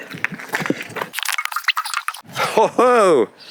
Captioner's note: fast forward sounds